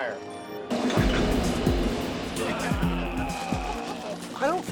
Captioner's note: banging noises